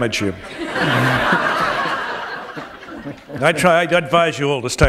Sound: laughter

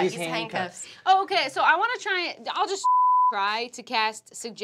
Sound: beep

